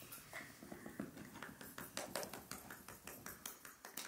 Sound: hands clapping

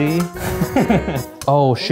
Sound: laughing

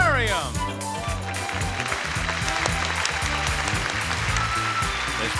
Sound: crowd clapping

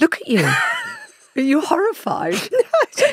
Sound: Giovanna laughs

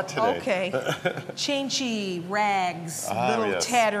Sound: laughs

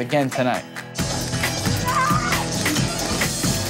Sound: yelling

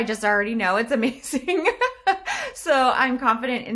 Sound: laughs

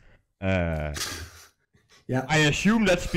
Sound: sighs

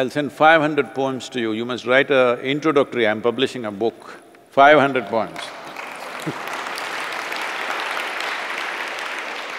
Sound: laughs; applause

